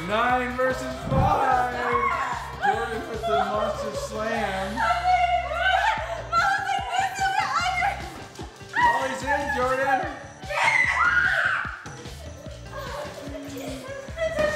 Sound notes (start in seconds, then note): 0.0 excited yelling; 10.4 screaming